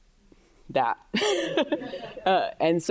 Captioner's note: chuckles